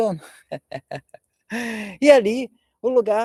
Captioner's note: laughter